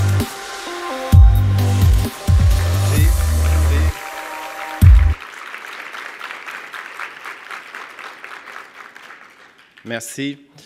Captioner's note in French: applaudissements